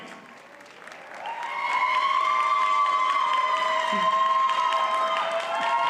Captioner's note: audience cheers and applauds